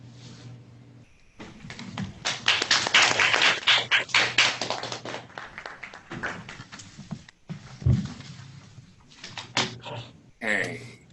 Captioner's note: applauding